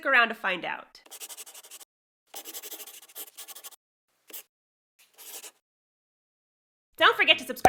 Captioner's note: the sound of a pen scratching. LOGO